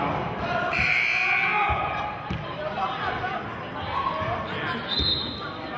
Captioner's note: buzzer sounding and whistling